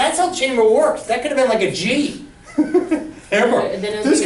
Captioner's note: laughs